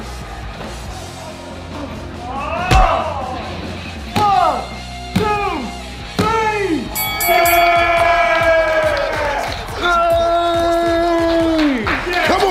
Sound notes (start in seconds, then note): 0.1 rock music; 6.9 bell ringing; 7.4 clapping and cheering